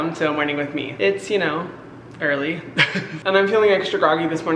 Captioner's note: chuckles